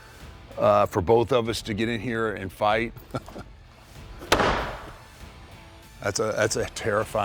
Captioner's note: laugh